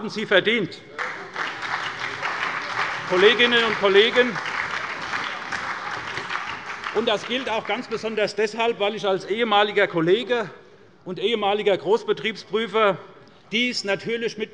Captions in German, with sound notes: Das haben sie verdient. (Beifall bei der SPD und dem BÜNDNIS 90/DIE GRÜNEN sowie bei Abgeordneten der CDU) Kolleginnen und Kollegen, das gilt ganz besonders deshalb, weil ich als ehemaliger Kollege und als ehemaliger Großbetriebsprüfer natürlich mit